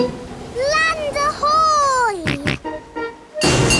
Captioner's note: snorts